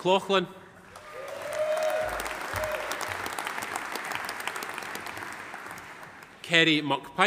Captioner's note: audience applauding; audience cheering